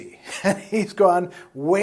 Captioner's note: laughs